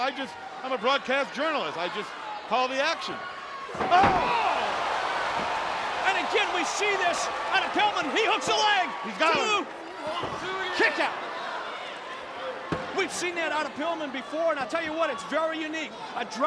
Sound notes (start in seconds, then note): 3.7 body thudding; 3.7 blows thudding; 8.9 wrestlers grunting; 10.2 hands thudding